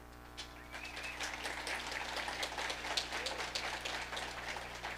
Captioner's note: audience applauding